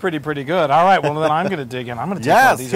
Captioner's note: laugh